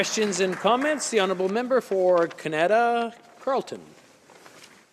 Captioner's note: some applause